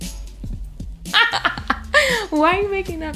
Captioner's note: laughs